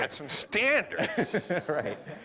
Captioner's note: laughter